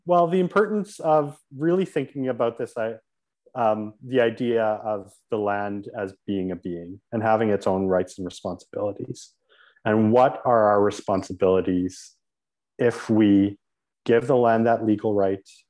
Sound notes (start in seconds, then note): none